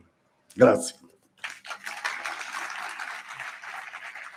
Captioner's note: applause